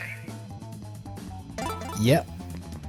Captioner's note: emergency sirens